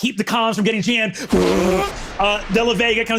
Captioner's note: vocalizes ship's thrusters